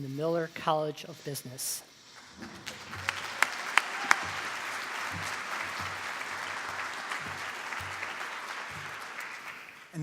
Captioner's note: appluase